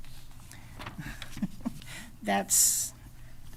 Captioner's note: chuckles